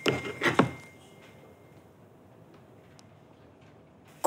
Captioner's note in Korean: 휴대전화 문자 수신음